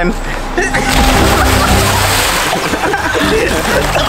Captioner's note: water splashing; crew laughing